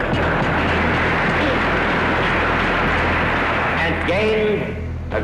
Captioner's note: audience laughing and applauding